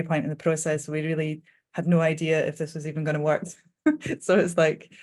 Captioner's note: chuckling